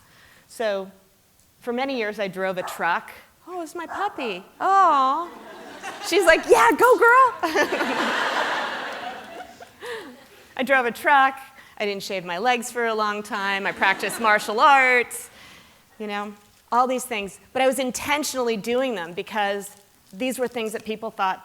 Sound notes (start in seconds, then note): 7.4 laughter